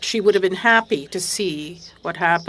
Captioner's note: speaking French